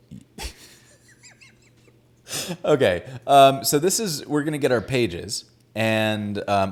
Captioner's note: laughing